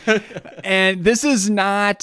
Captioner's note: laughs